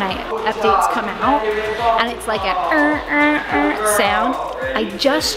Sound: imitates alarm

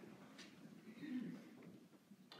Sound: person clearing throat

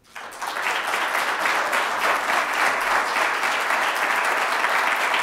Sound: audience applauding

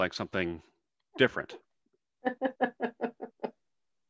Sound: laughs

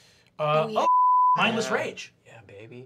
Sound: beep

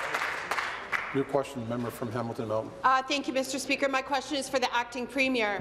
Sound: applause

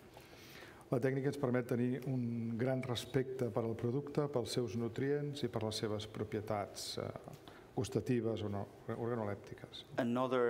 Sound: speaking catalan

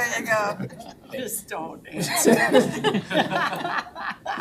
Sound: all laughing

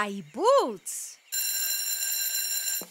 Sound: school bell ringing

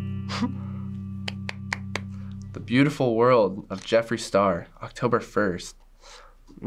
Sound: claps

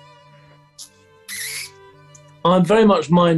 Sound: laughing; slurping

